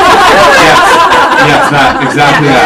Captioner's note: all laughing